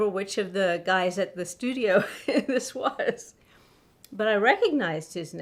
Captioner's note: laughs